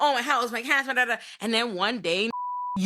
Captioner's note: beep